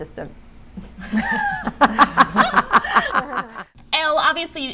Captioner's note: laughing